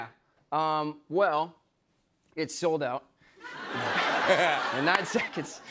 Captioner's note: laughter